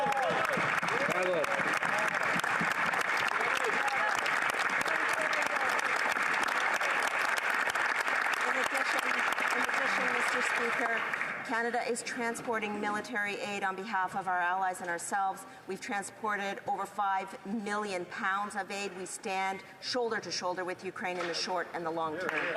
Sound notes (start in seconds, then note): 3.6 applause